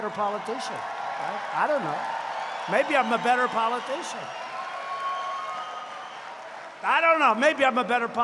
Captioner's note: applause